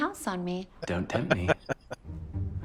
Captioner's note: chuckling